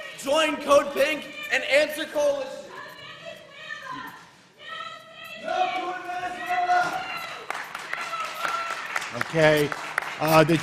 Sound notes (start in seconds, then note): 7.2 clapping